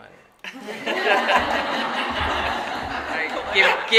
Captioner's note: audience laughing